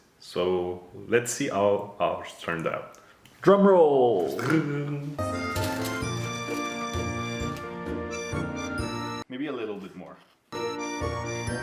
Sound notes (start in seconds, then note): 4.9 hums dramatically